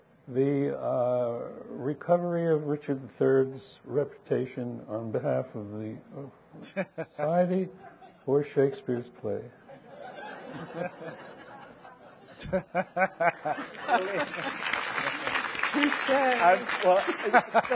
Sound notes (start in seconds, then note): 9.7 audience laughing; 12.3 laughing; 13.7 audience applauding